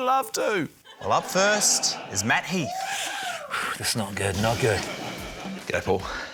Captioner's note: exhales